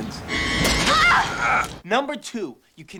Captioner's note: Casey grunts